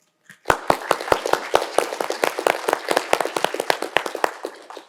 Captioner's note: audience applauding